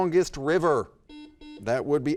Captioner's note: buzzer dings